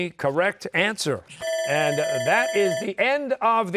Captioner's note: bell ringing